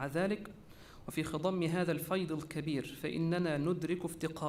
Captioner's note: repeated in Arabic